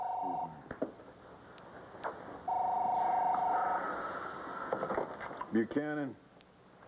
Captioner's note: telephone rings